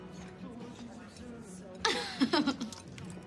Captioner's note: laughs